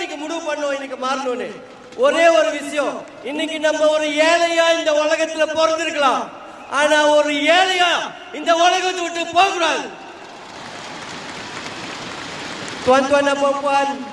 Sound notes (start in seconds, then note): 10.0 indian crowd cheering